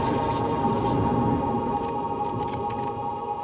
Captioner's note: cameras flashing